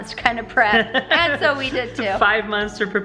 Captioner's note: laughing